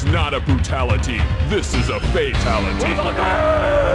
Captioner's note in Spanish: Grita